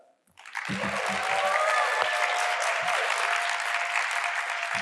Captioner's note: audience applauding